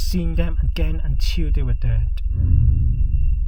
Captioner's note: humming noise